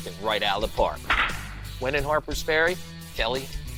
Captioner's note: bat cracks